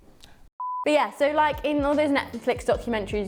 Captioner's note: beep